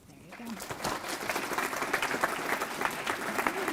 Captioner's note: applause